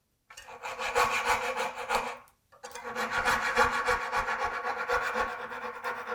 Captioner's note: coping-saw on wood rhythmically rasping